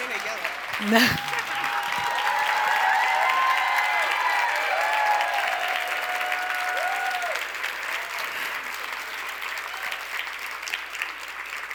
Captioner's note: crowd cheers & applauds